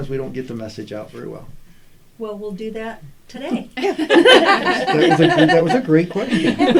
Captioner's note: laughter